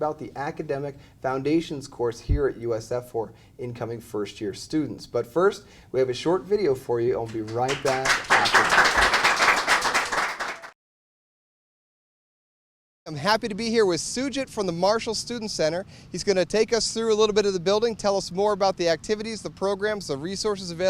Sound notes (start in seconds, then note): 10.9 applause